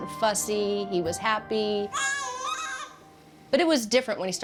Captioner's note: cooing